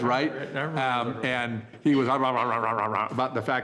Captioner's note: vocalizes